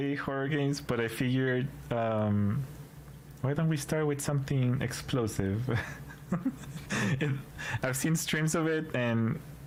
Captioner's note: laughter